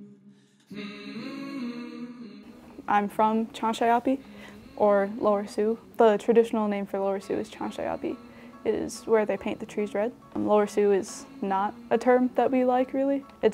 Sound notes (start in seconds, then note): 1.1 soothing humming